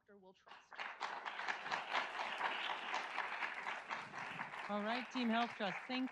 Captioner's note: audience applauds